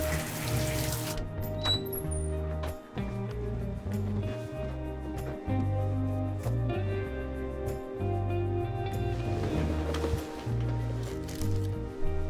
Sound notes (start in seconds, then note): 1.4 door creaks; 5.2 soft music continues; 9.2 bed rustles